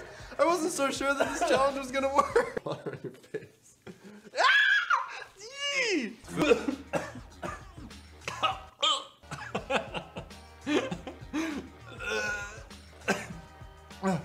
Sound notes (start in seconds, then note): 4.3 screams